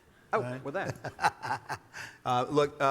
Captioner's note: laughs